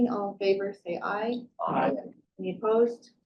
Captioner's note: participants chanting aye